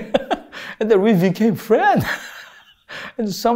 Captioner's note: laughs